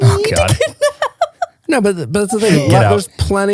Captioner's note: laughing